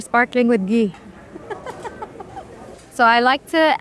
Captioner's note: patron chattering continues; laughs